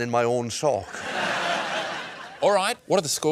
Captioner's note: laughter